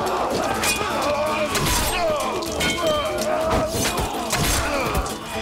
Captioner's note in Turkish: Haykırıyorlar; Kılıç sesleri